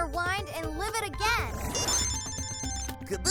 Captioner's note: cell phone rings